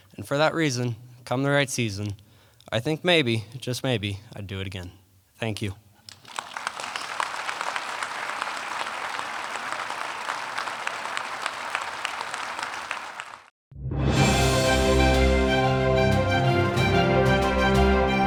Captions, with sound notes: And for that reason, come the right season, I think maybe, just maybe, I'd do it again. Thank you. (audience applauding) (upbeat music)